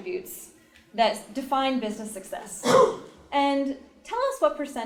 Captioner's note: cough